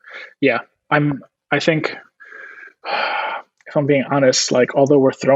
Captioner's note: sighs